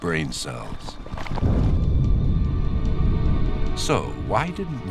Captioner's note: exploding